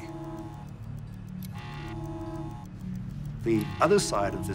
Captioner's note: buzzing